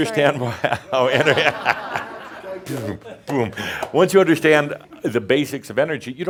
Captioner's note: laughter